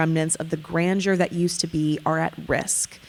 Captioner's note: none